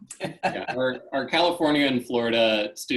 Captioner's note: laughs